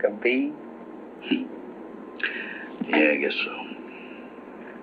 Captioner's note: chuckles